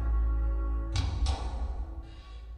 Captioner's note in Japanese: 鉄扉の開閉音：ゴタン